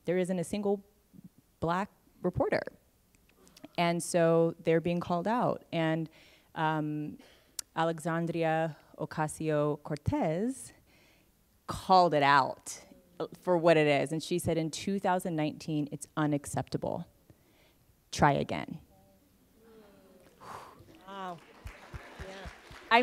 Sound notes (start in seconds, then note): 19.1 applause